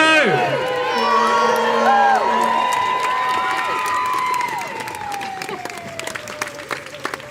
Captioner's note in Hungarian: Taps és éljenzés